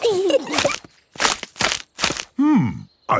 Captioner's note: kids giggling; crackling